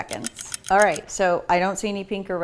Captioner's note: clock ticks